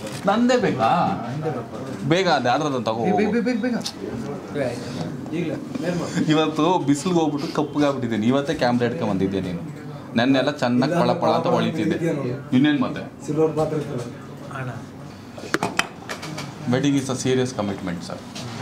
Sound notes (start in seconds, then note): none